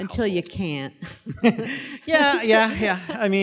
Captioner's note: laugh